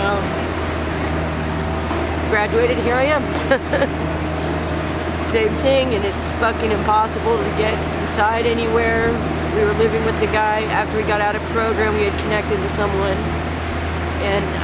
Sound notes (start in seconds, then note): 3.2 laughs